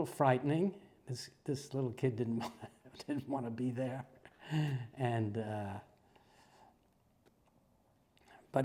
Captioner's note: laugh